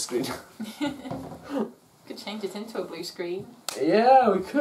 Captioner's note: finger snap